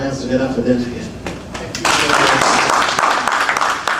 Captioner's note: applause